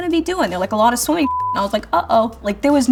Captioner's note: beeping